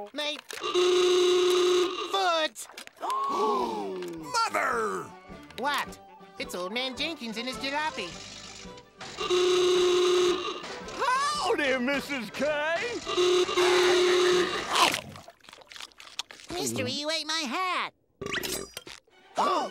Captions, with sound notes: My... [honking] foot! [gasping] - Mother! - What? It's Old Man Jenkins in his jalopy. [honking] Howdy, Mrs. K! [honking] Mystery, you ate my hat! [burps]